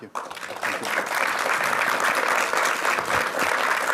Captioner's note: applause